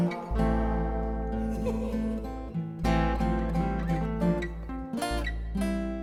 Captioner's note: woman's laughter